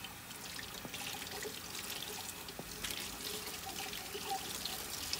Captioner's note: water facet running